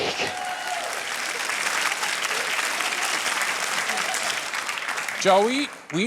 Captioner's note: cheering and applause